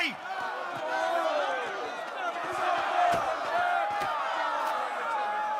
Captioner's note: shouting